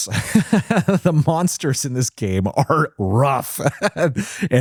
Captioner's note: laughs